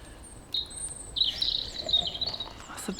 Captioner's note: bird singing